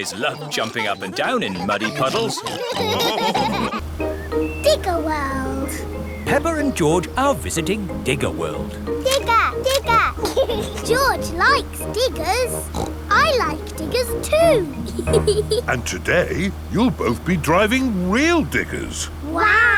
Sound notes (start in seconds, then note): 8.6 laughs; 12.5 snorts; 13.0 laughs